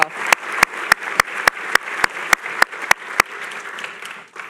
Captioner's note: applause